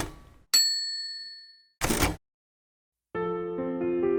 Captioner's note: typewriter dinging; tranquil music